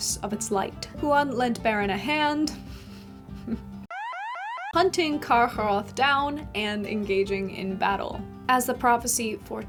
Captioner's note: alarm Sound